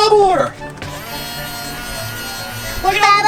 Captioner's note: high pitched motor